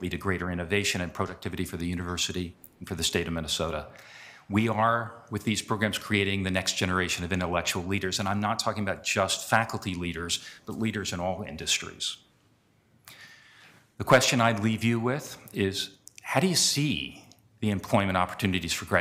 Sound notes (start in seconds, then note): none